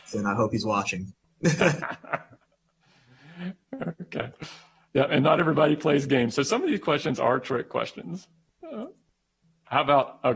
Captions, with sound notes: AND I HOPE HE'S WATCHING! [ LAUGHTER ] >> AND NOT EVERYBODY PLAYS GAMES, SO SOME OF THESE QUESTIONS ARE TRICK QUESTIONS.